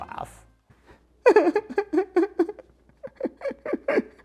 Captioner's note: sobs